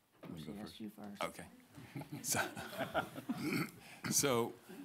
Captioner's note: panel laughing